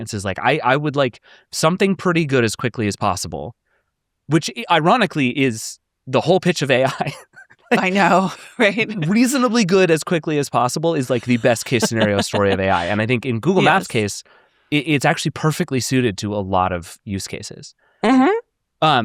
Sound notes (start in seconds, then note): 7.2 laughs; 11.0 laughs